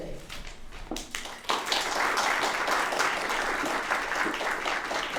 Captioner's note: applause